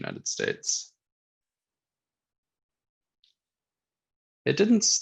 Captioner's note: silence